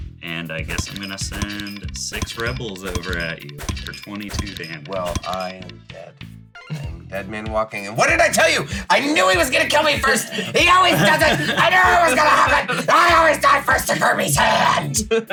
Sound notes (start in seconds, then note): 7.8 yells; 10.0 laugh; 13.7 laughs; 14.4 continues laughing